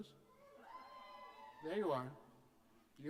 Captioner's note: cheers